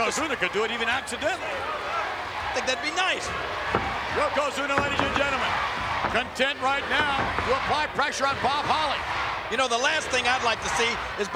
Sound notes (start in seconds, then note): 6.8 audience chanting